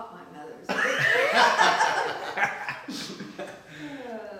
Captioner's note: group laughing